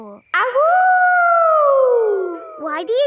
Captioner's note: howling